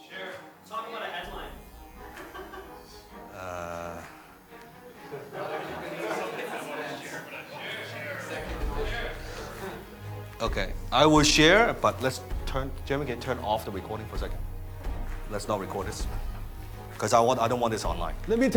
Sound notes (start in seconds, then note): 4.4 laughs; 5.8 audience murmuring